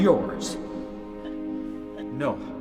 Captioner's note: crying